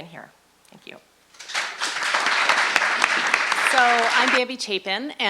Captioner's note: audience applauding